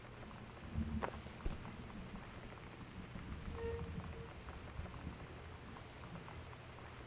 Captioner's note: low Wind Rumble and Metal Scraping